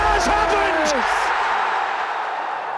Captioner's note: crowd erupts